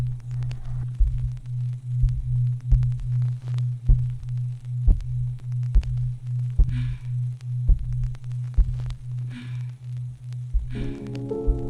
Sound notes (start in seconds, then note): 0.0 gentle close-up breathing in ears; 2.5 soft heartbeat sounds